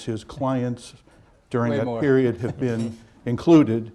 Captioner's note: laughs